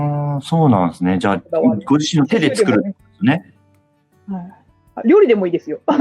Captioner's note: laughs